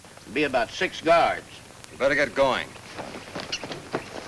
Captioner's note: none